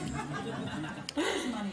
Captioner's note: laughter